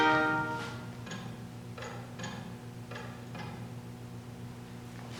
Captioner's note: clock ticking